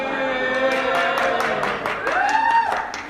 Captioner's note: cheering